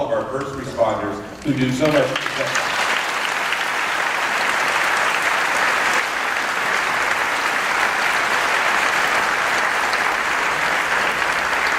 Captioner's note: applause